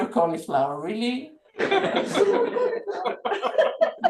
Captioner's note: laughter